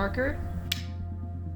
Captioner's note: slate claps